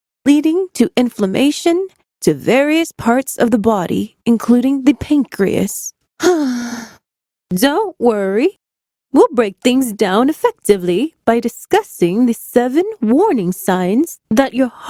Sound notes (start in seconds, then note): 6.2 sigh